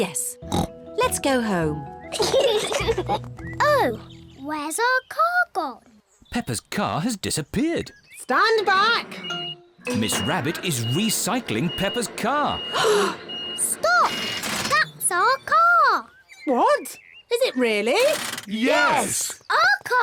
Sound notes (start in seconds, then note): 2.1 kids giggle; 12.7 all gasp